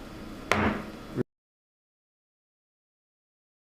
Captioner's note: gavel bangs